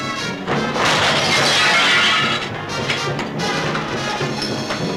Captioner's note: glass shattering; dramatic music